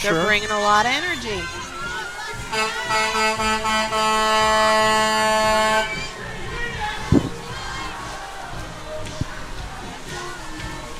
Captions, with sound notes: Colts are gonna bring today. They bring a lot of energy, I'm sure. They're bringing a lot of energy. (horn honking)